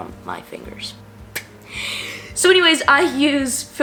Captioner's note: laughs